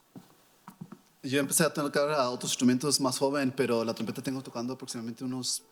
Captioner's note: speaking in foreign language